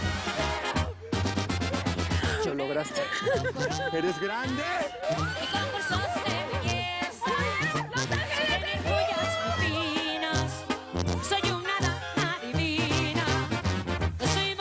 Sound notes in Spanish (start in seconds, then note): 2.8 Risas; 4.8 Gritos